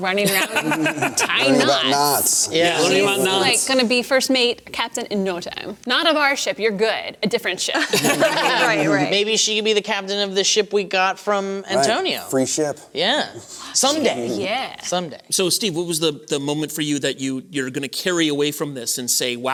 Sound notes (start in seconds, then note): 7.7 laughter